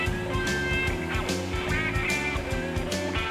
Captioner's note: distant motors rumbling